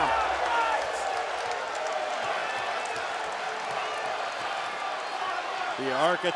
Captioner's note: applause